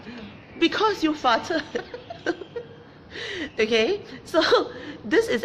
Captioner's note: laughs